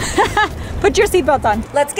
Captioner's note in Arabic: ضحك